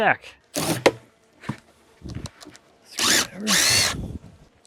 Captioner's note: drill whirring